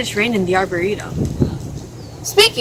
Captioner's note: thunder rumbles